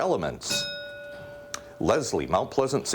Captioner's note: bell rings